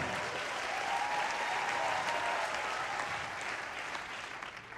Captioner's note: audience applauding